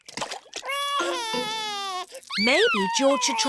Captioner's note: cries